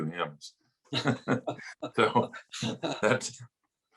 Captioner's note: laughing